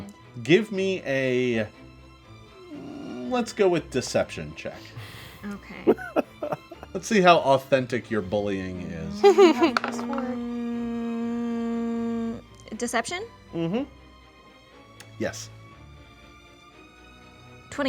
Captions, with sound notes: Give me a let's go with deception check. - Okay. - (laughing) - Let's see how authentic your bullying is. - (dice roll) Deception? - Mm-hmm, yes.